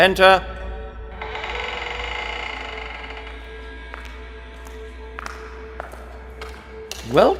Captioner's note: the door opens, footsteps approach